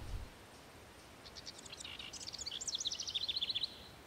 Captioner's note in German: Vogelgesang